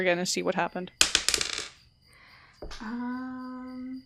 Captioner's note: dice clacks